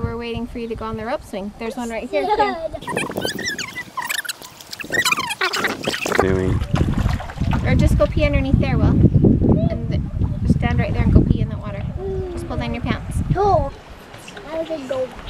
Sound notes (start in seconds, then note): 2.0 child laughs; 2.8 tape fast-forwarding; 9.4 distant whooping